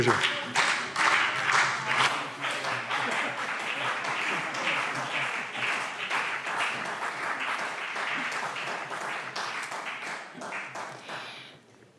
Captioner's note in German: Beifall BÜNDNIS 90/DIE GRÜNEN und CDU